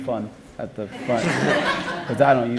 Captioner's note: laughter